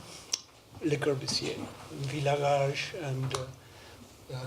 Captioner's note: non-english speech